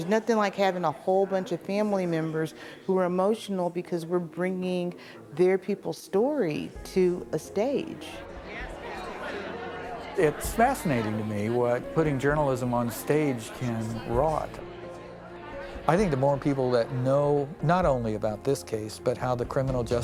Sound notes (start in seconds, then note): 7.6 indistinct chatter